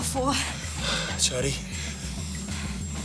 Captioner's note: sighs